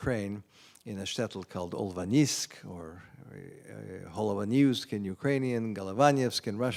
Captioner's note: non-english